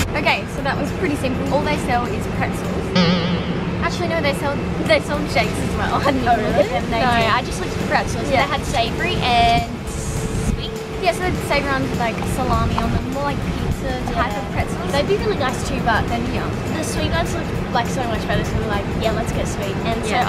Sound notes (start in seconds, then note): 0.0 upbeat music; 2.9 boing